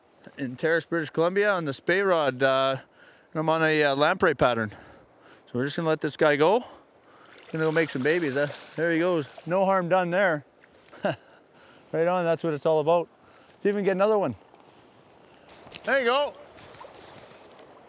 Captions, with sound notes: in Terrace, British Columbia. On the spey rod, caught him on a lamprey pattern. So we're just gonna let this guy go. Go make some babies, (splashing) there he goes. No harm done there. (laughs) Right on, that's what it's all about. Let's see if we can get another one. There you go.